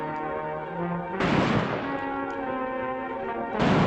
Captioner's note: firing